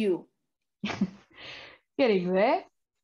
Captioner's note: MORGAN Chuckles